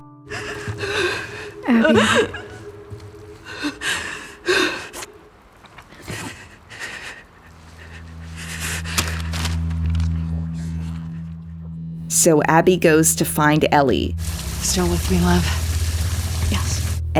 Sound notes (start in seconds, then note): 2.8 Abby sniffling; 5.1 paper rustling; 5.6 Abby breathing shakily